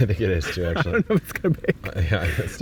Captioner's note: laughing